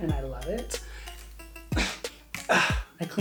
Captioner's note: grunts